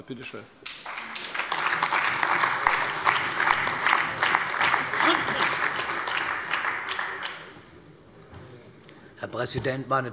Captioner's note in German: Allgemeiner Beifall